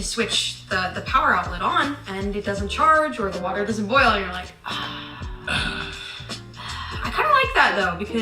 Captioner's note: sigh